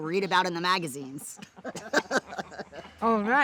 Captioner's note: laughter